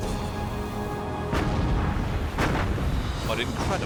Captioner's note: explosions